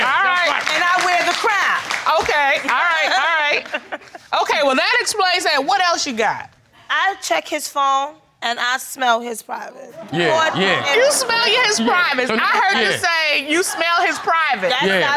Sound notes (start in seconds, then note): 9.7 audience groans